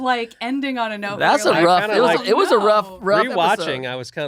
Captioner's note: chattering